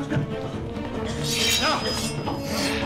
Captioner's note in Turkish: Kılıç sesi